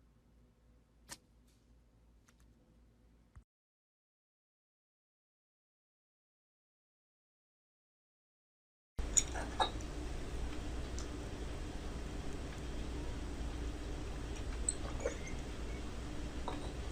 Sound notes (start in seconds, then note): 0.9 scrape